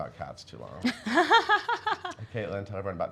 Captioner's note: laughs